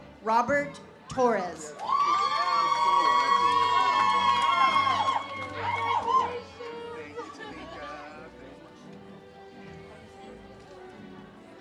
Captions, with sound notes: Robert Torres. (audience cheers) - Congratulations.